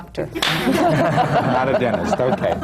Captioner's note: laughter